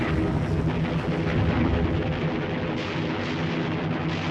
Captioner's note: explosions booming